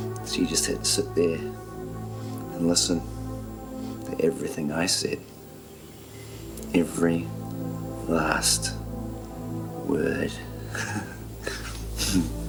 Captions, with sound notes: She just had to sit there and listen to everything I said, every last word. (laughs)